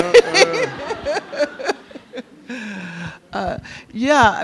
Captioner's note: Angela Davis and audience laugh